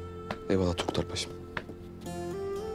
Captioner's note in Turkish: El vurma sesleri